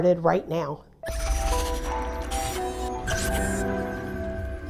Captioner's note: logo buzzes